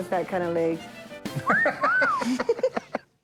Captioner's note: laughs